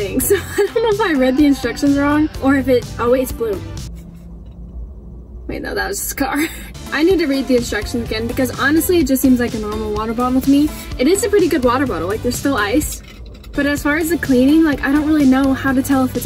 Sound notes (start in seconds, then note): 13.0 ice clinking